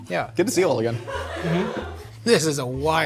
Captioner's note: laughing